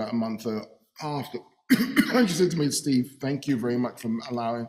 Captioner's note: coughing